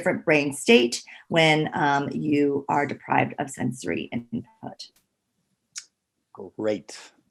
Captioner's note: faintly speaking